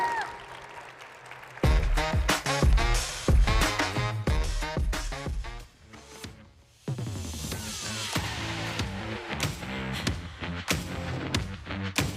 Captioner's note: applause